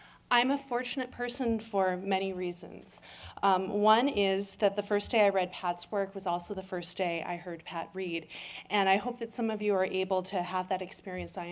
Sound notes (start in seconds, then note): none